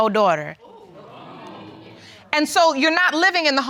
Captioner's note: audience gasping